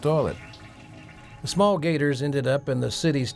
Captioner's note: toilet flushing